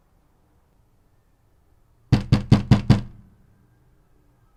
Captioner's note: knocking